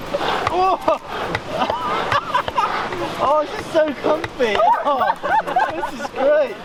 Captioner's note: laughs